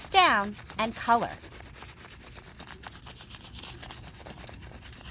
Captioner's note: crayon scratching